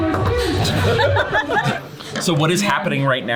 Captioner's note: laughing